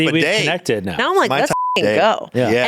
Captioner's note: beep